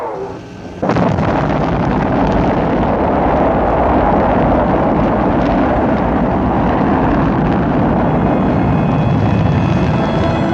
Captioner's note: rocket Launch